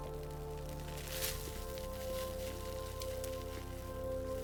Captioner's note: footsteps crunching